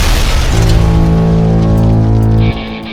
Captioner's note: explosion booms; machine blares; upbeat rock music